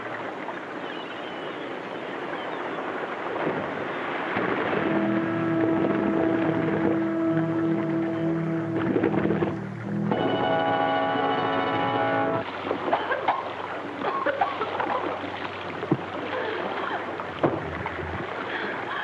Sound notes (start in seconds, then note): 3.7 water splashes; 4.8 tense music; 10.3 dramatic music; 12.9 coughs; 12.9 water splashes